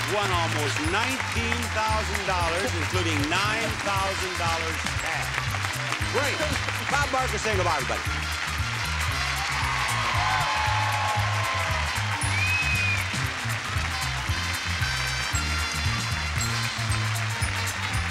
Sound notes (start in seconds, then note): 9.5 audience cheering; 9.5 upbeat music continues